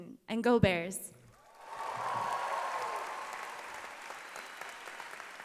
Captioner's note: cheering and applause